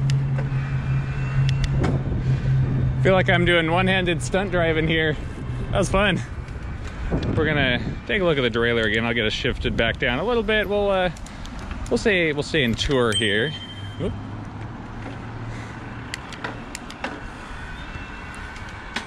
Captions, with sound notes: (gears clicking) I feel like I'm doing one-handed stunt driving here. That was fun. We're gonna take a look at the derailer again. I'll get shifted back down a little bit. We'll say we're in tour here. (bell dings) (gears clicking)